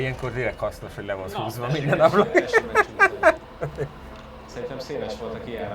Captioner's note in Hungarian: nevetés